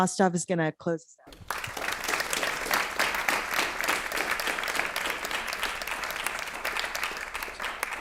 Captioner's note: applause